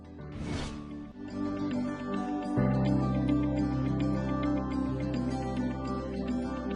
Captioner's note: screen whooshing; lively music